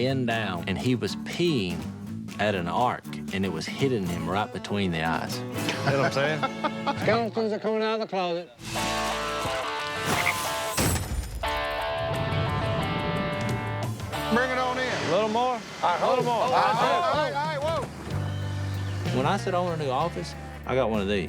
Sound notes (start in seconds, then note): 5.6 laughs; 8.6 upbeat music